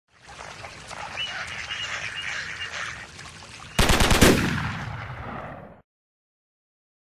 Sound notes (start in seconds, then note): 0.3 duck calls; 3.8 shotgun sounds